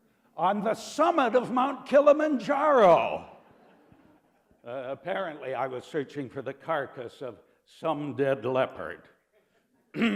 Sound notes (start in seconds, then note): 3.3 laughter